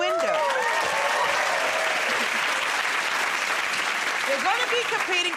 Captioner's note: cheers and applause